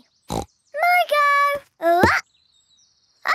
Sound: snorts

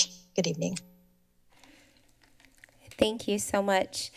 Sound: silence

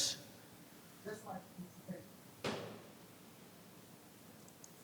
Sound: background chatter

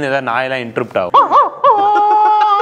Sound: mimicking dog bark

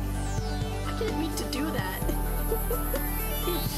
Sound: laugh

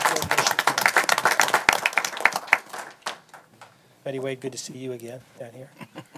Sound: applause

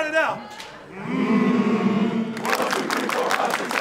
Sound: humming

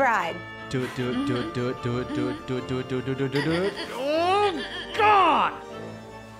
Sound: Matilda squeaking

